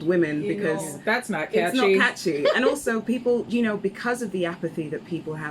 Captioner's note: laughs